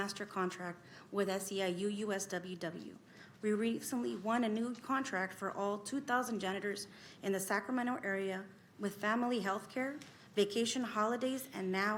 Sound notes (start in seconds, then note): 1.1 speaking spanish